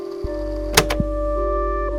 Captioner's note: click